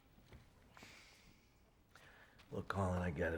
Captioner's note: suspiro